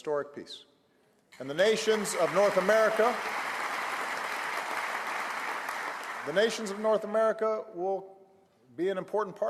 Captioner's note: applause